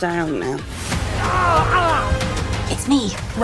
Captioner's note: person yelling